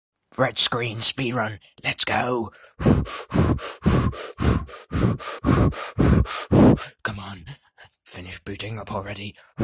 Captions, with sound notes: Red screen speed run. LETS GO!!! *intense breathing* COME ON! Finish booting up already!